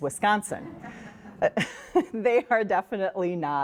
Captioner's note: all laugh